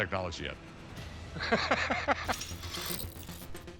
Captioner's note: laughs; dramatic music